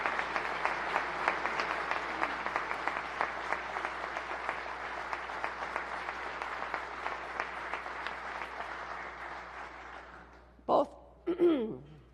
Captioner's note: applause